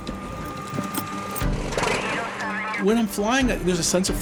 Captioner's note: airplane engine noises